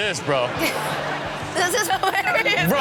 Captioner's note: audience laughing